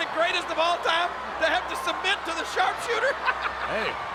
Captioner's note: laughs